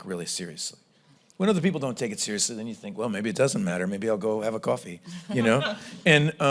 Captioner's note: laughter